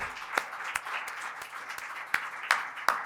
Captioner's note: applause